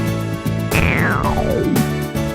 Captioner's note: stomach growl!